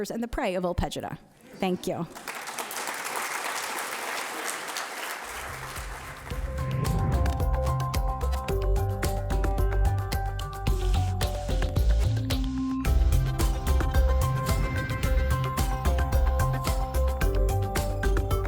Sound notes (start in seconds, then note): 2.0 audience applauding; 5.8 uptempo music